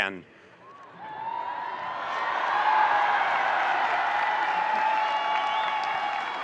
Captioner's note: audience cheering and applauding